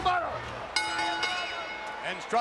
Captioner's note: bell rings